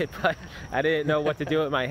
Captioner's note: laughter